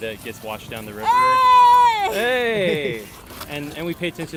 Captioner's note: excited yelling